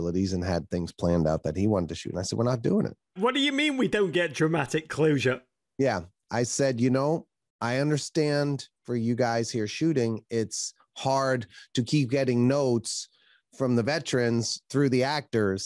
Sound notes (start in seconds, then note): none